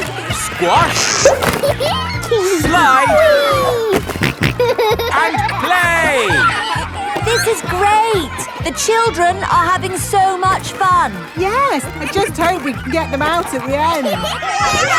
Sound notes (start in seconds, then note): 1.4 giggles; 4.0 snorting